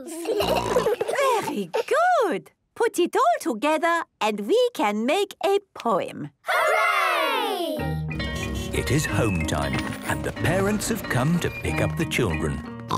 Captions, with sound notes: Snort! - Very good! Put it all together and we can make a poem! - Hooray! - (bell ringing, beeping) - It is home time and the parents have come to pick up the children.